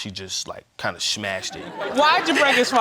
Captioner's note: audience laughs; laughs